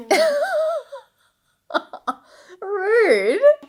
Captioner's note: laughing